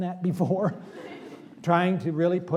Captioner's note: laughter